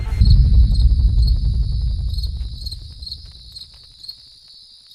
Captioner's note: crickets chirping